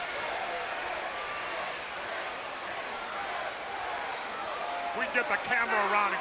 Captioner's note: crowd cheering